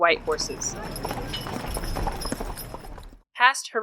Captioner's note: horse whinnies and creaking carriage